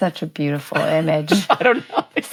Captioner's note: laughing